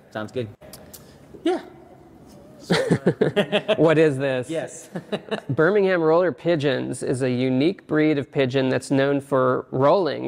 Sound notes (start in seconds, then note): 2.6 both laughing